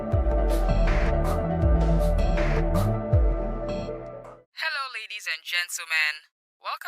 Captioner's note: radio Voice